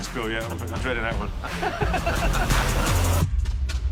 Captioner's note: both laugh